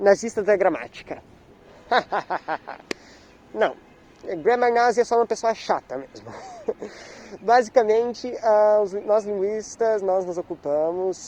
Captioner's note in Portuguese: risada maligna